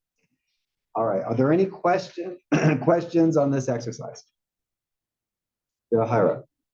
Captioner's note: cough